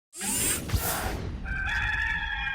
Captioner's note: machine zipping; rooster crowing